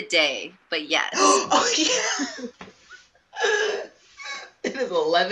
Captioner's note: laughs